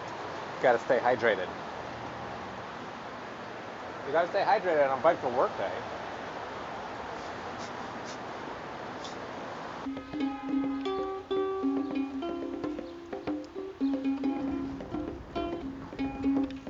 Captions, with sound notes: Got to stay hydrated. You got to stay hydrated on bike to work day. (Scoffs) [Theme music]